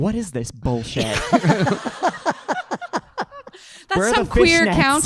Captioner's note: audience laughing